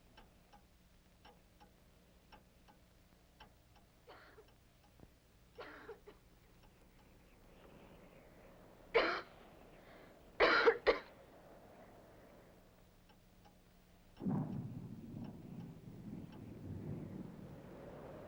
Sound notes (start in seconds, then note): 0.0 clock ticks softly; 5.6 Helen coughs outside; 10.4 Helen coughs; 14.0 thunder rumbles in distance